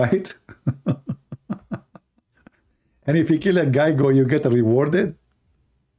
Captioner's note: Ketawa